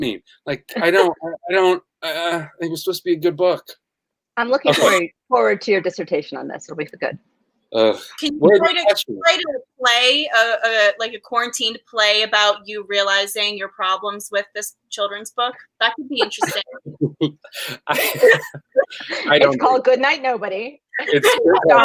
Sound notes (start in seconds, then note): 7.7 groans; 15.5 laughing